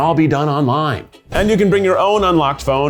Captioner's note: graphics whooshing